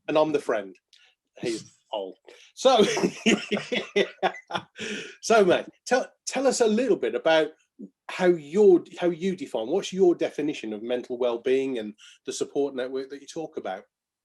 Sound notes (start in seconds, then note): 2.8 laughing